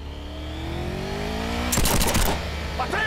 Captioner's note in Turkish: Silah sesi